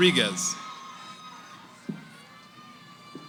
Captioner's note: cheering